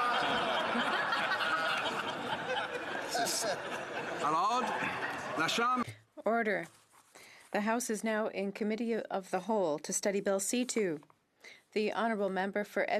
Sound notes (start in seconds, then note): 6.1 laughter